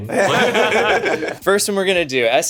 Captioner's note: streamers laughing